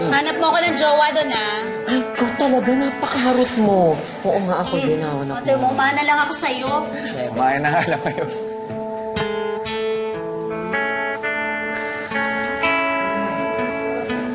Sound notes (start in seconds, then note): 7.7 chuckles; 8.8 mellow music playing